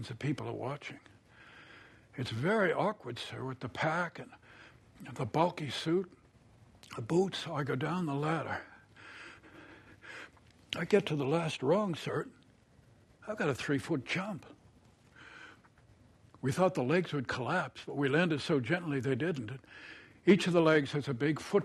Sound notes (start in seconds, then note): 8.7 breathing heavily